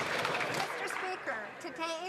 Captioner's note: some Applause